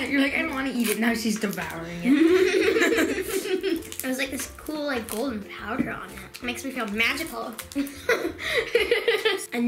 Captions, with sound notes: - You're like I don't wanna eat it, now she's devouring it. (both laugh) - There's like this cool golden powder on it. Makes me feel magical. (laughs)